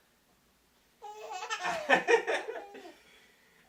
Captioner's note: baby laughing; dad laughing